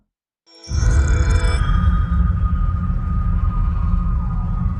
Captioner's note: dramatic sound